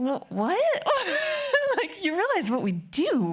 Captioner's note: laughing